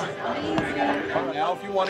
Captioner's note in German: Mutter